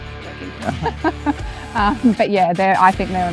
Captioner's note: both laughing